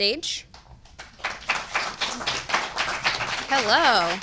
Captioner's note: audience applauding